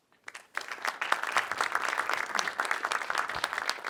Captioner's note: audience claps